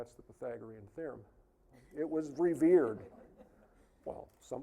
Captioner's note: audience laughing